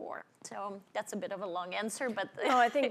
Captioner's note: laughs